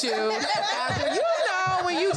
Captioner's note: all laugh